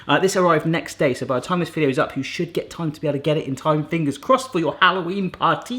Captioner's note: none